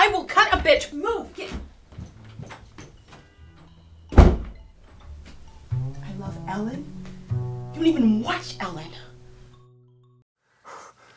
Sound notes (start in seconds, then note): 6.3 heavy breathing